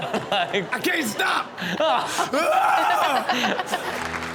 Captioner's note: all laughing; mimics roar; all laughing